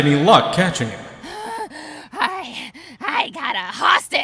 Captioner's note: puff